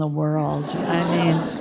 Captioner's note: laughter